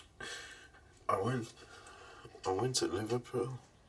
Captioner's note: sniffles